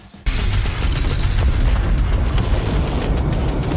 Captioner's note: gunshots